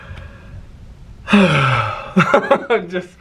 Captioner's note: sighing; laughing